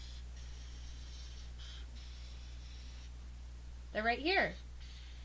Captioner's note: chalk scratching